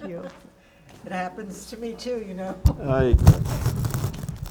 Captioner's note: laughing